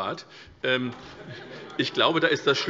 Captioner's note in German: Heiterkeit SPD